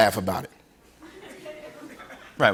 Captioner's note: laughter